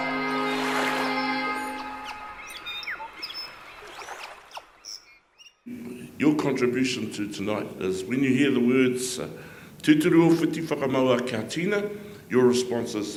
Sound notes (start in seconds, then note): 4.2 water trickling